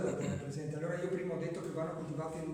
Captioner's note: clears throat